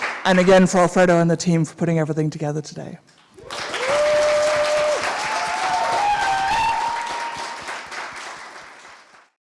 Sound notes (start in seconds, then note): 3.3 audience applauding and cheering